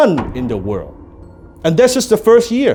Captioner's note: gavel pounding